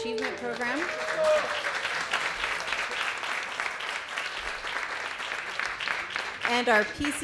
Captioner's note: applause